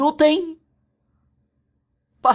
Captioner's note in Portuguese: Silêncio